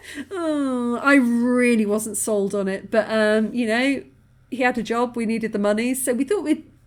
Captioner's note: laughing